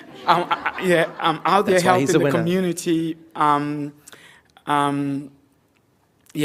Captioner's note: laughter